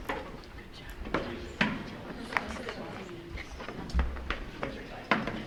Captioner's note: light chattering